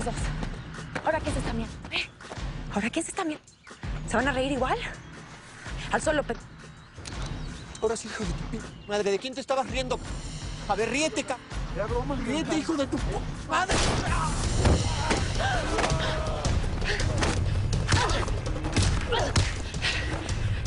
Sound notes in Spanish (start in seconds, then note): 13.7 Disparo; 18.6 Golpes